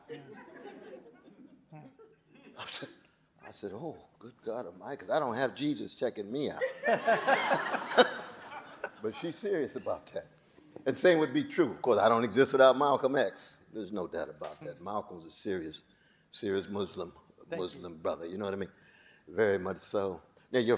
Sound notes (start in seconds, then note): 0.0 audience chuckling; 6.6 audience laughing